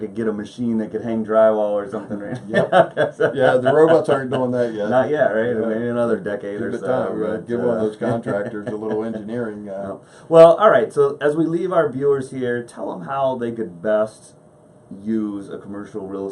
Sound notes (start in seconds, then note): 1.9 laughs